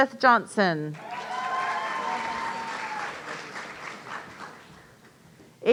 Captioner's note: audience cheering